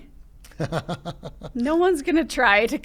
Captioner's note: laughing